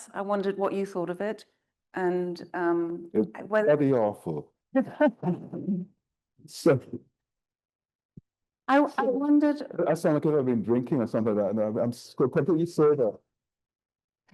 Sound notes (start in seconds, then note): 4.9 all laughing